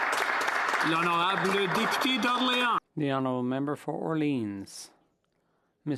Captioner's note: applause